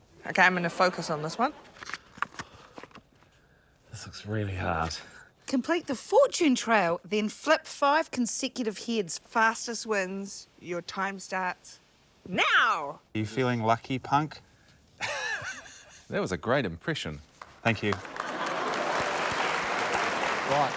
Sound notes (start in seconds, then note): 15.0 chuckles; 19.0 applause